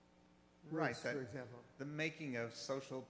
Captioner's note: voiceover